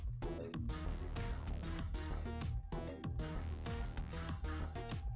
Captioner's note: none